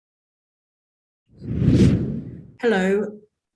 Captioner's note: slide whooshing